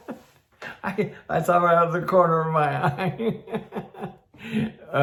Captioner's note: chuckles